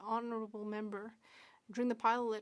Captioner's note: speaking French